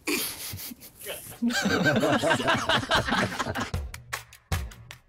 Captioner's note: chuckles; group laughs; hard rock music